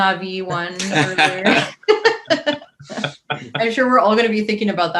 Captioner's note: all laughing